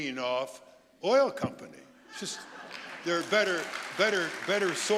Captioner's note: audience applauding